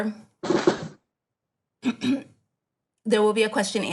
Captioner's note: dragging chair sounds; clears throat